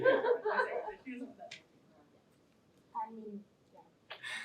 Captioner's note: laughter